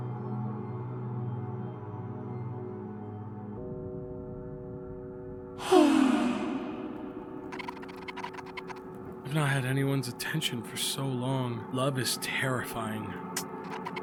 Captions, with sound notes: (The Duchess sighs) "I've not had anyone's attention for so long... 'Love is terrifying.'